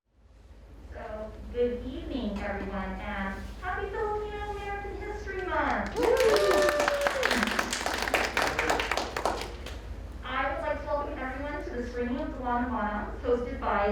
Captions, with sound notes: - Good evening everyone, and happy Filipino-American History Month! (audience applauds) I would like to welcome everyone to the screening of Delano Manongs,